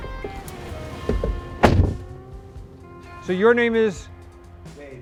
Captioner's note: car door clunks